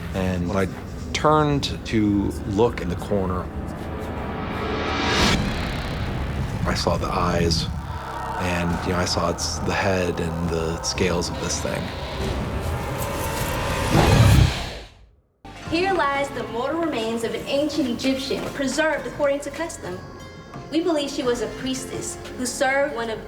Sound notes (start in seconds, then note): 13.4 growling